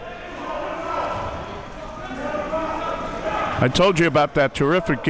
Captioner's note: audience chattering and yelling